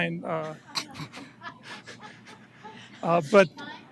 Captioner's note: laughs